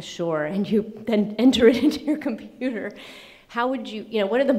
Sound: laughing

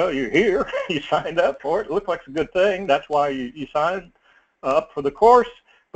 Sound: laugh

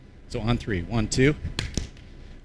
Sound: claps

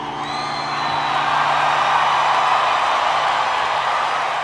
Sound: crowd cheering

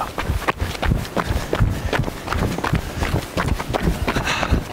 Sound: feet hitting ground

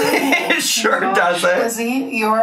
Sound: laughs

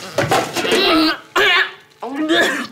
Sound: vomiting

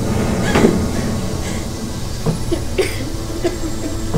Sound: gasping; coughing

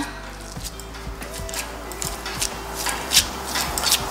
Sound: ball squishes

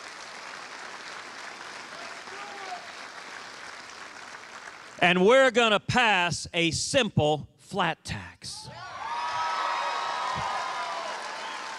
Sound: cheers and applause

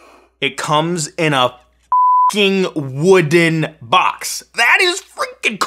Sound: beep

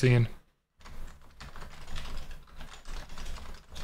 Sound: typing

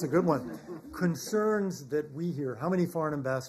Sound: laughter

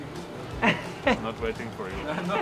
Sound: camera man laughs

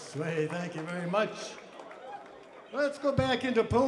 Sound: crowd applauds

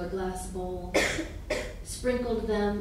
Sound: coughing

